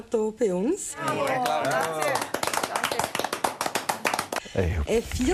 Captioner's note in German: Geklatsche und Jubel